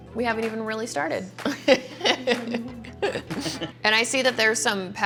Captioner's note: laughs